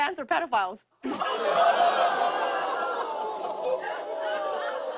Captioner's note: audience ohhs